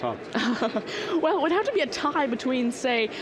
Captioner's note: laughing